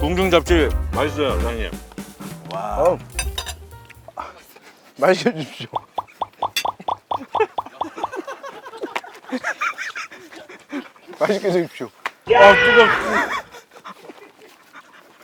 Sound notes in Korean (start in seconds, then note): 5.3 웃음